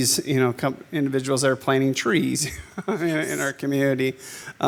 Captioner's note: laughs